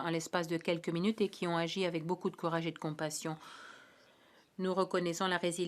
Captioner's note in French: voix de l'interprète